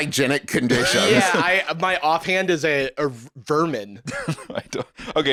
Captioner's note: laughs